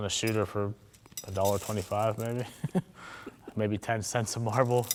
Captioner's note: laughs